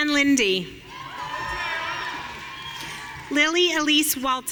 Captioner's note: audience cheering